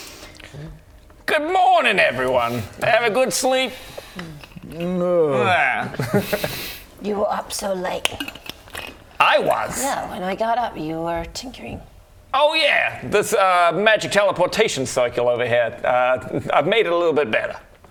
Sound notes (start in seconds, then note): 4.2 hungover grunts; 5.0 nyaagh